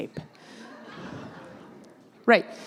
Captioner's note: laugh